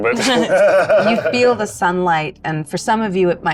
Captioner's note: group laughs